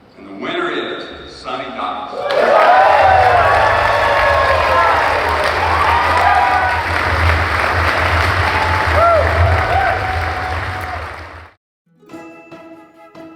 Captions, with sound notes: - And the winner is Sonny Dykes. (crowd cheering and applauding)